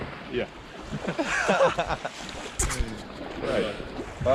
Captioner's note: everyone laughing